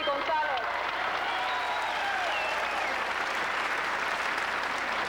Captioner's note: applause